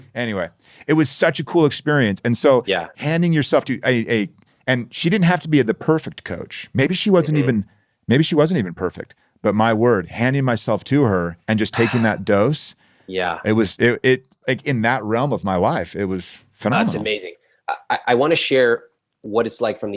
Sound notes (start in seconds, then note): 13.3 sighs